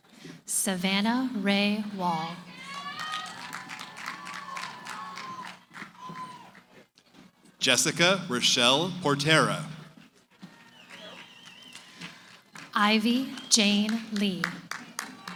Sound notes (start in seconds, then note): 2.4 cheering, applause